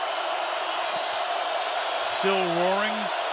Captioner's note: crowd roaring